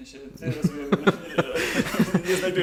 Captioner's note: laughter